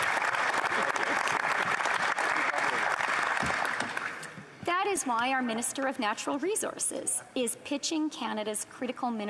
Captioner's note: applause